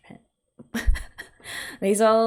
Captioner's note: laughs